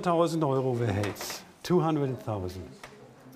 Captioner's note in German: englisch